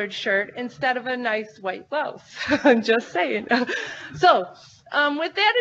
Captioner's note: laughs